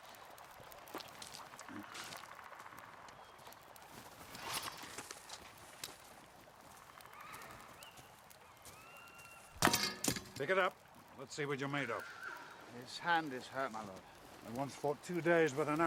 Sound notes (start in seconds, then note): 0.7 spits